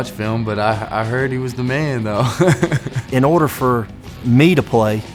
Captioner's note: laughs